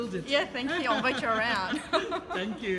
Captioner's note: laughing